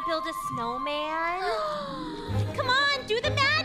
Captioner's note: Elsa gasps